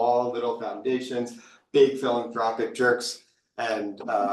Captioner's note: people chuckling